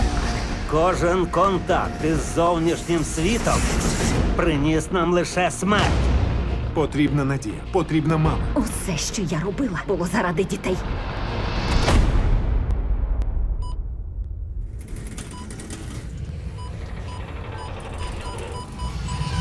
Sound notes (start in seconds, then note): 13.3 beeping